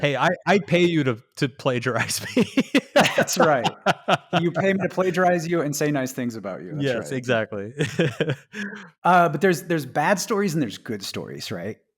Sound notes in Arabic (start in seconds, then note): 7.7 يضحك